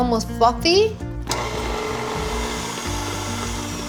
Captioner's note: whirring